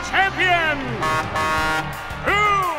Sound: truck horn

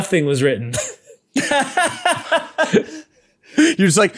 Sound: laughing

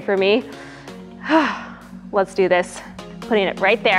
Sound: sighs

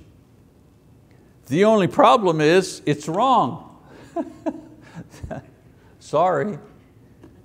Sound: laughs

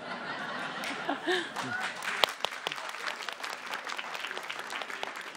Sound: laughs; audience applauds

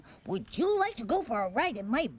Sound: none

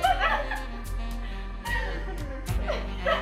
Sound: laughing

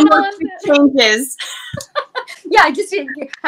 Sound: both laugh

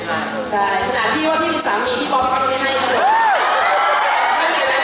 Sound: laught

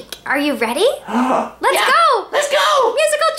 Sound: gasps

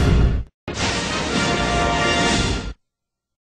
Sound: electricity zapping as rousing fanfare plays

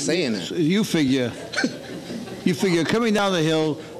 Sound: laughing

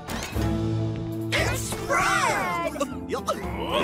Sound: Goofy laughs

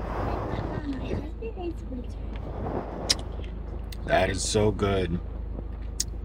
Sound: smack lips

